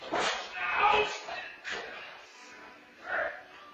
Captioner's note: pained grunting